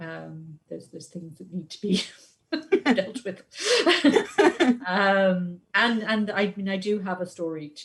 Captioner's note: laughs